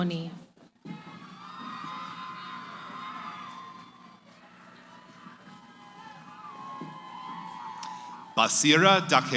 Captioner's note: cheering